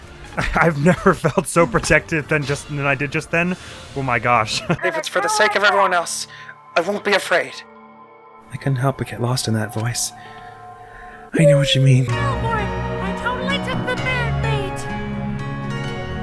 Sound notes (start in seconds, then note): 4.7 as Alter Ego; 11.3 Chihiro-please-marry-me voice